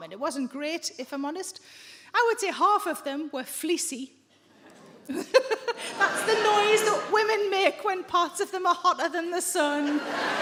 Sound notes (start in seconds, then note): 4.5 audience members groan